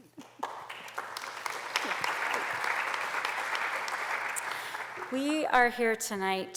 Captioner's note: applause